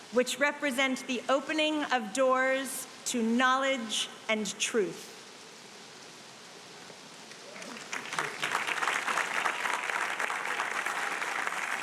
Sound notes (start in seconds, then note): 7.4 audience applauding